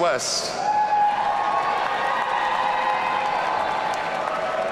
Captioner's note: audience cheering